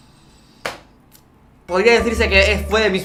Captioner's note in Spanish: Inhala